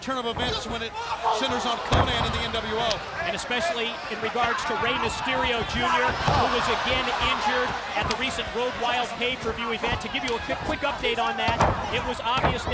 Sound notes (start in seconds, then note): 2.1 body thudding; 2.1 footsteps plodding; 9.4 footsteps plodding